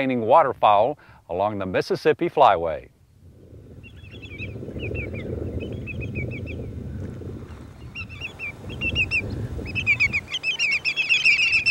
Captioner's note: birds cawing